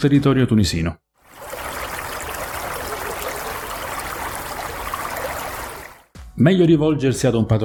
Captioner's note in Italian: rumore del mare